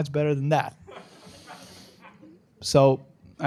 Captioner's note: laughter